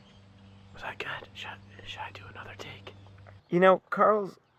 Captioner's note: whispering